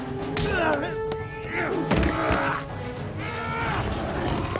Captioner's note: grunting and punching noises